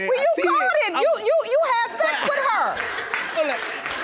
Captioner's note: stammers; audience applauding